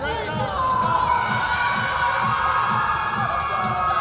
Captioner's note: Tigers cheering